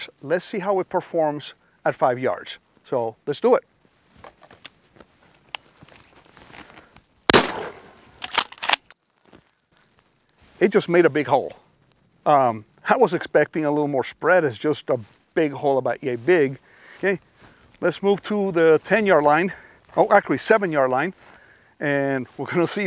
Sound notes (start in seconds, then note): 7.4 bang